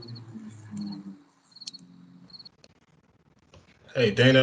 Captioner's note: plane engine roaring